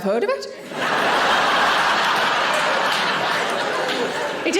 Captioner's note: audience laughing